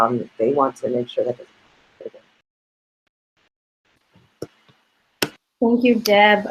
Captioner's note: audio cuts off